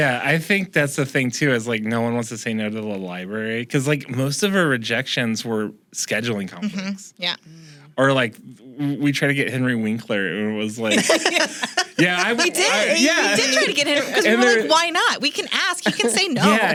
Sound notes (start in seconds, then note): 10.8 laughs